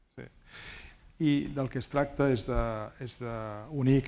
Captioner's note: speaking spanish